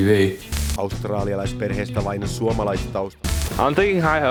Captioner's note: news reporter speaks in finnish